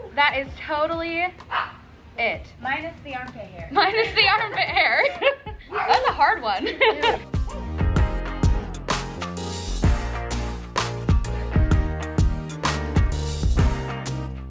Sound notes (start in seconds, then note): 4.0 laughing; 6.7 upbeat music